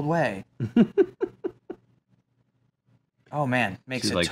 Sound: laughing

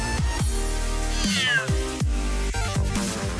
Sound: meows

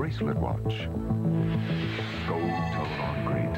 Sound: whoosh

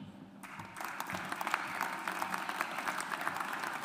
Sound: audience applauds

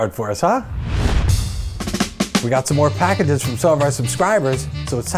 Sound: swoosh / music plays

